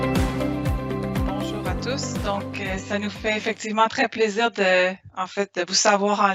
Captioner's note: speaking in foreign language